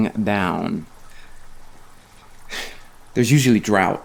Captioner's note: rain pattering